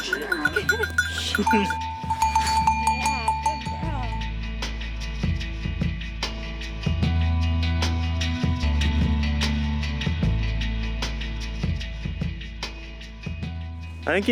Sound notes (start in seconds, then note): 2.1 jangling